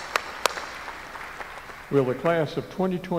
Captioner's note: applause